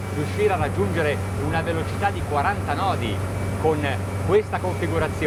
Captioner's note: speaking in foreign language